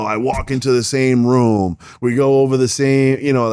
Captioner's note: clicks